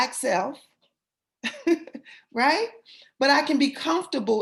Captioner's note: laughter